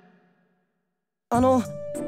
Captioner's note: contemplative silence